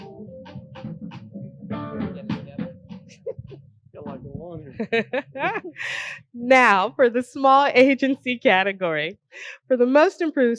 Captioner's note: laughter